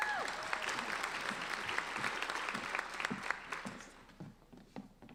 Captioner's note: applauding